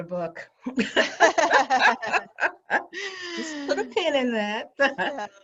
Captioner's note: laughing